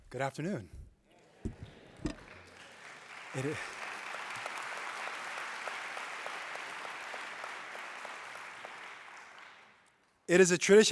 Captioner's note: applause